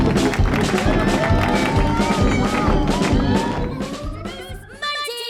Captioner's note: clapping; circus music